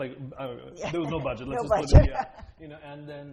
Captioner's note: laughter